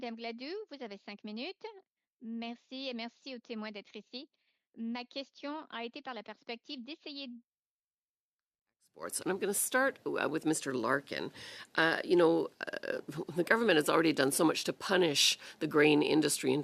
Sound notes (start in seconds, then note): 4.8 speaking French